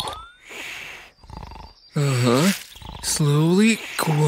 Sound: snoring

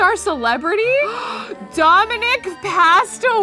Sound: gasps

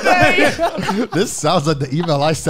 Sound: laughs

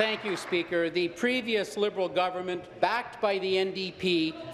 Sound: applause

